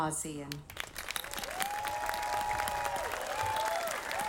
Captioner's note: audience applauding